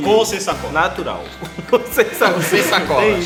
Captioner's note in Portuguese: Risadas